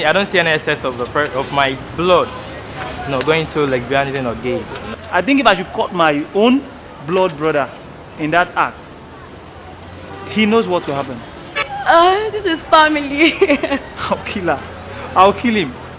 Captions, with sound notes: - I don't see any instance of my blood going to lesbianism or gay. - I think if I should catch my own blood brother in that act, he knows what will happen. - This is family [LAUGHS] - I'll kill her. I'll kill him.